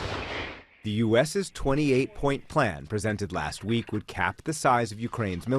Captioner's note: voice-over